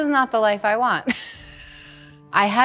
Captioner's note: laughs